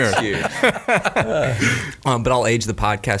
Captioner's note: laughing